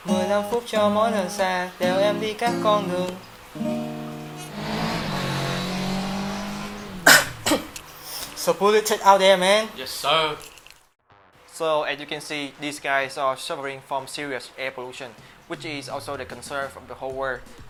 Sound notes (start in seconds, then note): 3.1 Tiếng xe cộ ô nhiễm